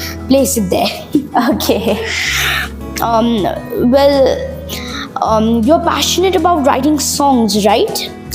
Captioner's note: laugh